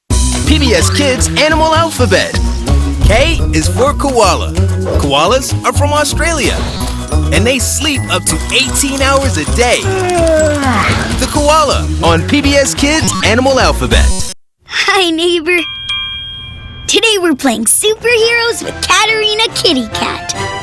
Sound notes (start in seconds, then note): 9.9 koala Yawns; 15.6 trolly Dings